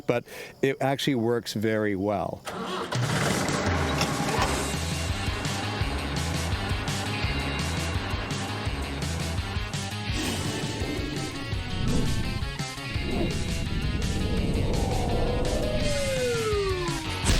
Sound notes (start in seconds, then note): 2.8 engine rumbling; 6.7 surf rock music; 10.1 air whooshing; 16.1 air whistling